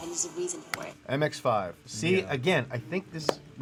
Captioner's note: none